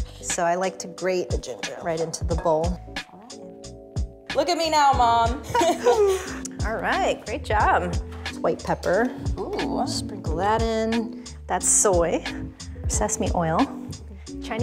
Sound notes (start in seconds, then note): 5.4 both laughing